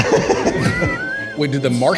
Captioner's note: all laugh